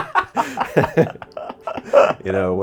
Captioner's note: both laughing